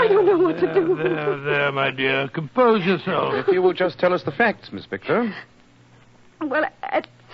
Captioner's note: crying